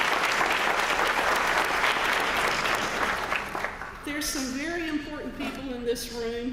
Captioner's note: applause